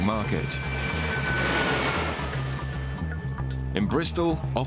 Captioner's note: plane roars